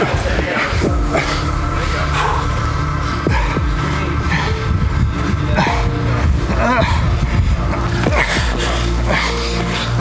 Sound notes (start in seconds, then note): 1.0 tranquil pensive music; 6.4 groaning